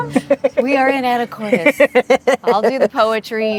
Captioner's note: laughing